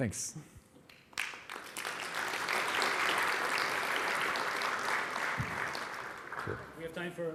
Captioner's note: applause